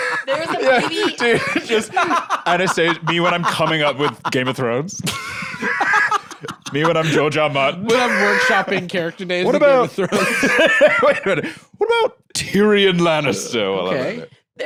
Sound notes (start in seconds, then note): 0.0 both laughing; 5.5 laughs